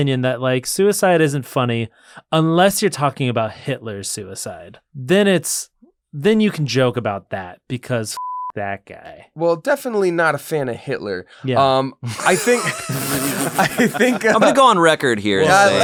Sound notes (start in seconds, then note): 8.2 beep; 12.0 laughter